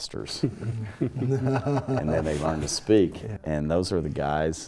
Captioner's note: laugh